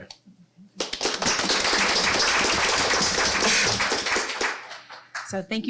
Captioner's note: applause